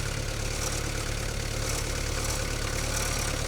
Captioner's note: engine rumbling